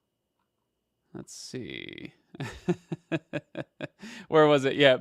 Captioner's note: chuckles